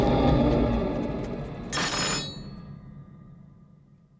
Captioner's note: knife drops